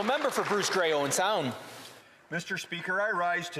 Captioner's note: some Applause